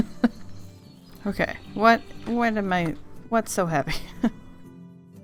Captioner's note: laughs; laughs